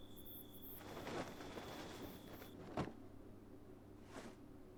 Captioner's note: cloth rustles